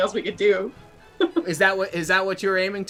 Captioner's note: laughter